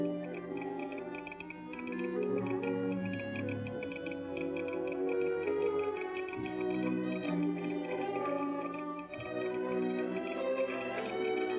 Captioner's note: romantic music; telegraph machine tapping